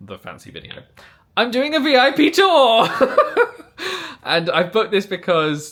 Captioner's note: laughing